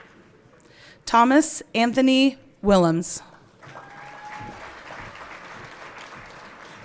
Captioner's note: everyone clapping